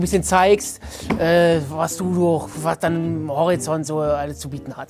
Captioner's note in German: Er stammelt